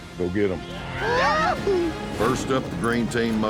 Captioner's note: cheers